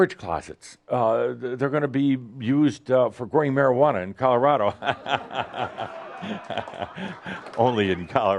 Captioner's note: lots of laughter